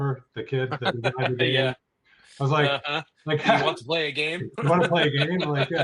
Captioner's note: laughing; chuckles; laughing